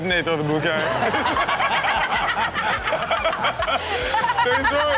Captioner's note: everyone laughing